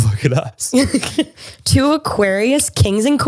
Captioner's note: both laugh